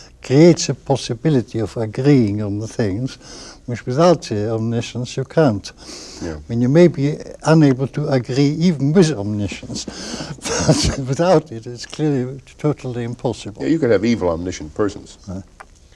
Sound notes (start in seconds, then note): 9.8 laughs